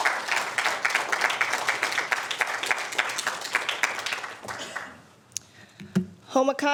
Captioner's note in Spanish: aplausos